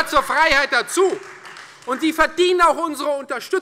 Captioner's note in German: Beifall Freie Demokraten